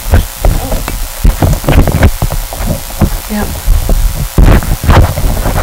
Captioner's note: muffled sounds from adjusting mic